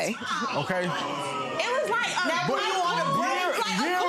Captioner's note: crowd gasps